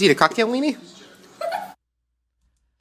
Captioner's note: laughs